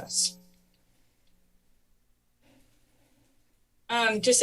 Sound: pause

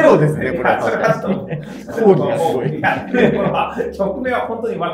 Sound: laughing

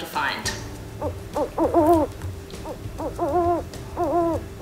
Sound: owl hooting

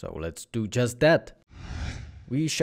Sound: whooshing

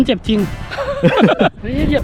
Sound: laughs

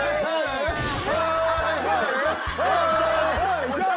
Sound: the returning students compete with their cheers

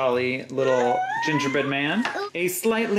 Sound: baby noises

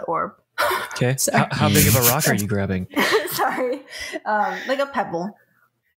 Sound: laughs; laughs again

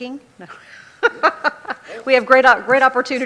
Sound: laughs

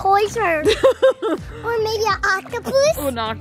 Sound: laughing

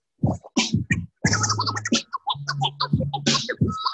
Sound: record scraping

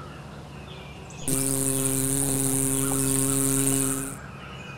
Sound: engine sound

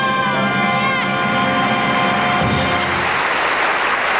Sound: audience applauding

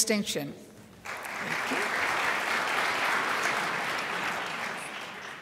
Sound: crowd applauds

